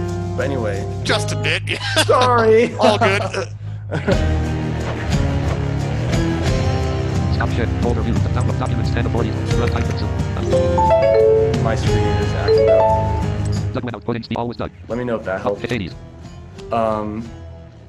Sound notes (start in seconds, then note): 1.2 laughs; 3.9 laughter